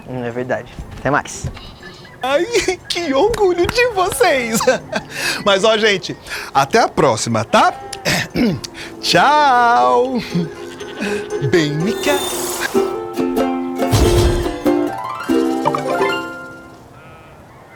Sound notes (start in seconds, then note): 8.1 Chico clears his throat; 15.8 notification